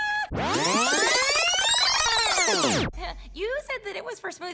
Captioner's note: tape fast forwarding